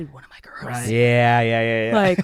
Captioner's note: chuckles